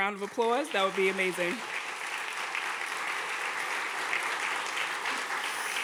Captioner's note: audience clapping